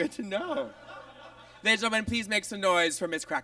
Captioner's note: audience laughs